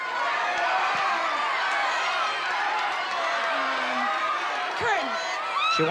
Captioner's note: crowd shouting